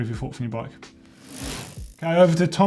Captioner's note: bicycle gear whirs